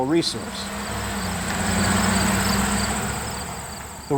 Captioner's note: crickets chirping